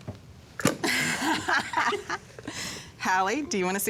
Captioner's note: laughs